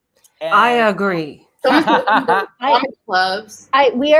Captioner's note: murmurs